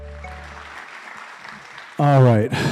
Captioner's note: crowd applauding